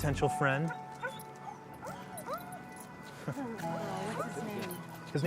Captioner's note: dogs whine